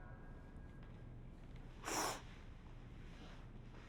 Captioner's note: sniffles